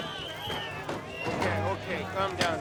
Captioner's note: whistles blow